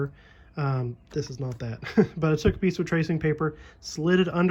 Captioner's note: laugh